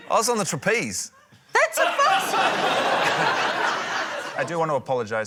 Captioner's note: laughter